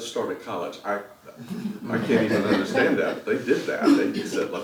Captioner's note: laugh